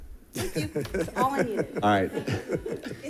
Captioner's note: people giggling